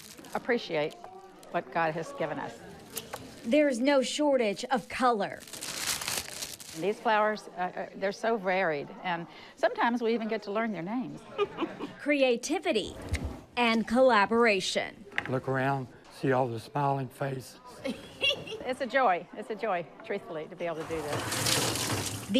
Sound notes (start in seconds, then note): 5.0 wrapper rustling; 11.3 volunteer laughs; 17.8 volunteer laughs